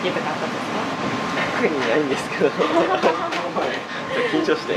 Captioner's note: laughs